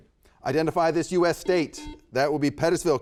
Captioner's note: buzzer beeps